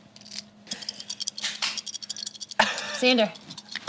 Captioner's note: dice clink